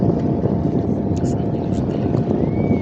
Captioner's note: droning